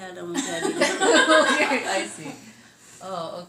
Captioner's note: laughter